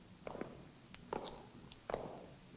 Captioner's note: none